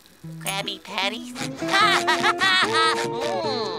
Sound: laughing

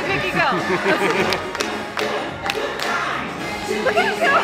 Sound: laughing

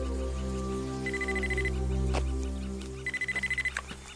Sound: phone ringing

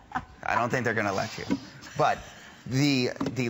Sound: laughter

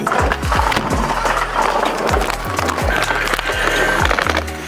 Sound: luggage clattering

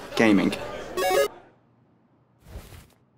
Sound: game noises

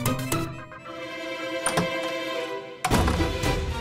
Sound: door opens and closes

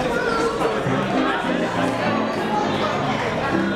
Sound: excited chatter

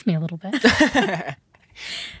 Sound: laughing

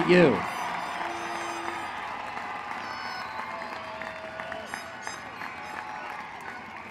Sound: applause

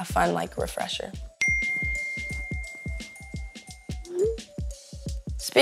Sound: phone beeping; text tone beeping

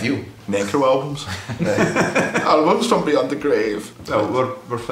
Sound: laughs

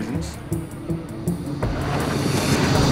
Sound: transition sound

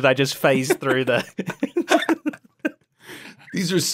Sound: laughs

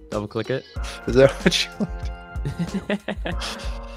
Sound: laughs

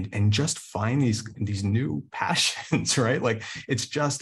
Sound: chuckles

